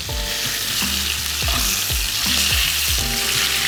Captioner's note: sizzling